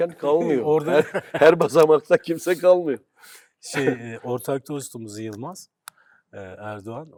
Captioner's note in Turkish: kahkaha